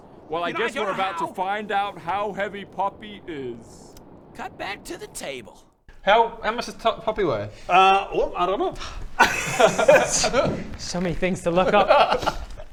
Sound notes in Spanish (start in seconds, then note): 8.8 suspiro